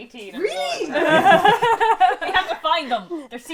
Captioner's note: laughter